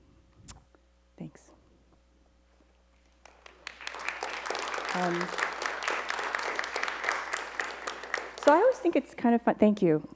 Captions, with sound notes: Thanks. [ Applause ] So I always thing it's kind of-- thank you.